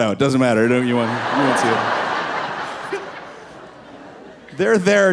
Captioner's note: audience laughing